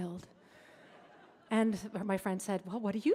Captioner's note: audience laughing